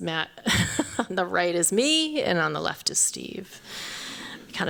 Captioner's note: chuckles